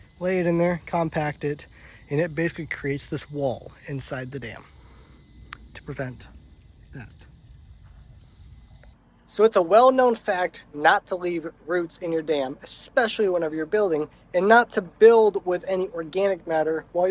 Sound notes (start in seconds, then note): 7.9 insects buzzing